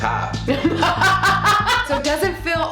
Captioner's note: laughing